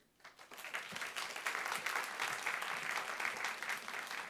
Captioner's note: audience clapping